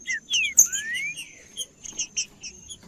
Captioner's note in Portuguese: trinca ferro cantando